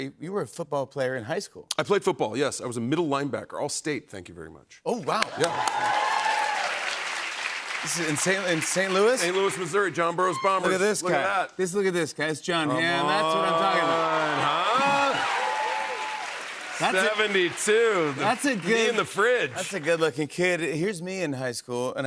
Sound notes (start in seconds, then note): 5.1 cheers and applause; 15.1 cheers and applause